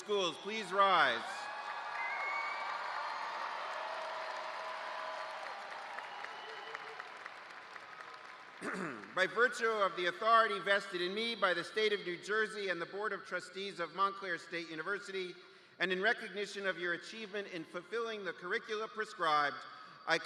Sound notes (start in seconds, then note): 4.7 cheers and applause